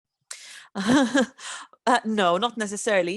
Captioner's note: chuckling